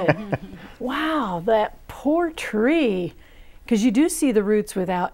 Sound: laughing

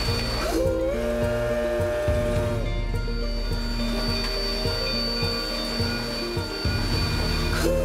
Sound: train whistle; train whistle

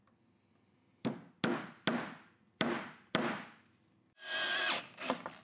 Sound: hammer tapping; screwdriver buzzing

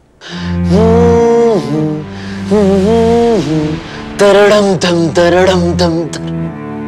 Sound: Advait humming Game of Throne's music

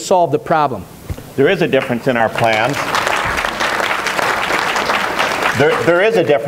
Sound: applause for Emmer

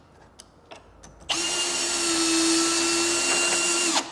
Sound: repeated drilling noise

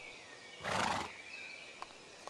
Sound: horse snort

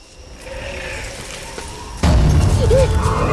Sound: ghosts howl in distance; suspenseful music

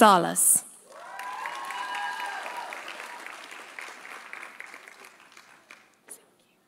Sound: audience cheering; audience applauding

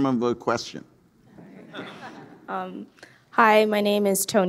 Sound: audience laughing

